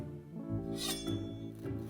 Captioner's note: shink